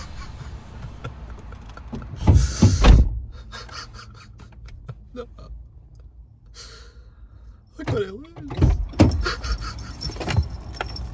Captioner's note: laughing Crying Sounds